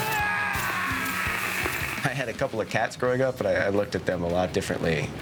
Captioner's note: screaming